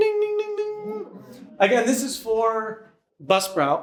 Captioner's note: audience laughs